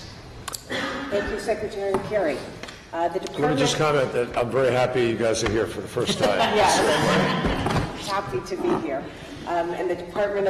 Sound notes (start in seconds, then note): 6.0 laughter